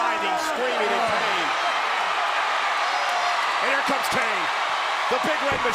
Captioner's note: applause